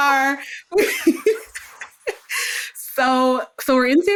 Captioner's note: laughs